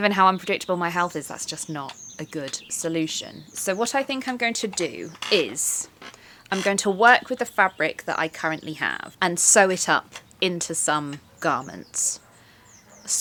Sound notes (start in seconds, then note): none